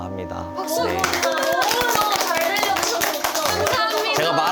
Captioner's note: applause